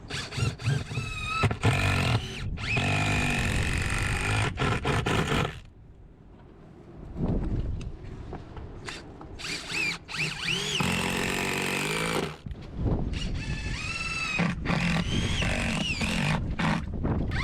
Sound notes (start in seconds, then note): 0.0 drill whirring; 1.5 drill grinding; 9.4 drill whirring; 10.9 drill grinding; 13.1 drill whirring